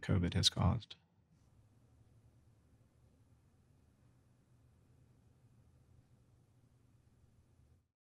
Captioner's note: silence